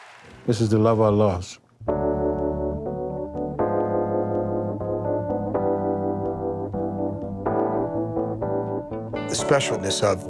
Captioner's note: cheering